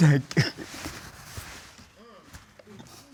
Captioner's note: sobs